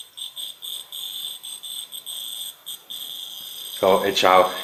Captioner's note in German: Das Knistern wird leiser